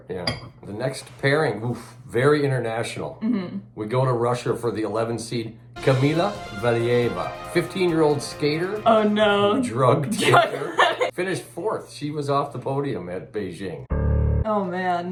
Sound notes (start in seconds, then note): 5.7 sport music; 10.0 laughing; 13.9 dramatic piano